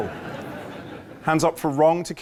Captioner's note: laughter